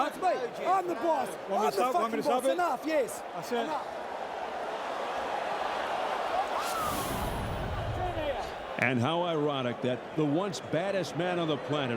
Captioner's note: applause